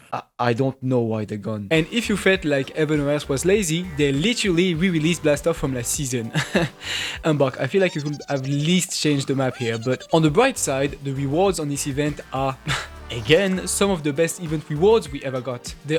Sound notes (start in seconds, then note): 6.2 laugh